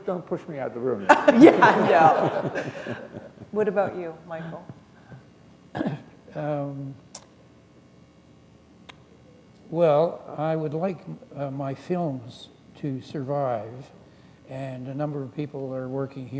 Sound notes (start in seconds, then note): 1.0 laughter